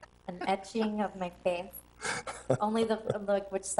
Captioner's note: people chuckle